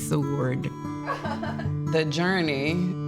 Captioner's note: laughing